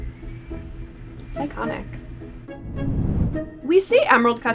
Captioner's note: air whooshes